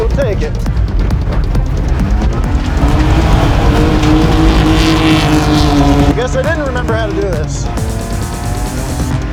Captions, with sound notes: We'll take it. (car roaring loudly) Guess I didn't remember how to do this.